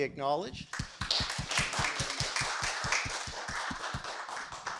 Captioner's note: audience clapping